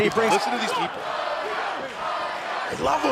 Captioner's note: fans chanting